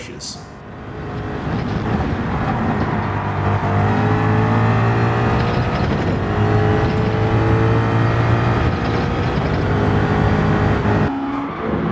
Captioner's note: engines revving, cars noises